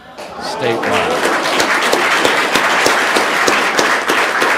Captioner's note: audience applauding